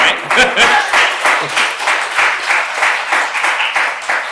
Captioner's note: applause